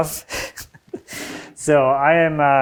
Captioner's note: laughs